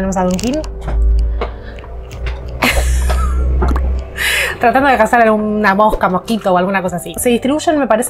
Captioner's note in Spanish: risas